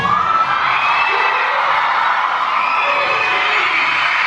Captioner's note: audience cheering